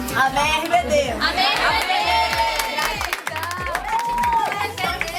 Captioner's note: applause